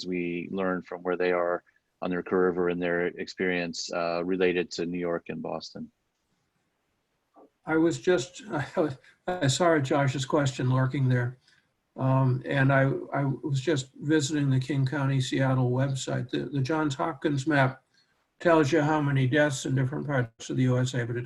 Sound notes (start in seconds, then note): 7.7 laughs